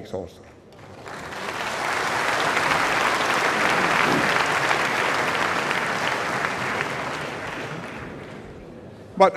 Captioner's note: applause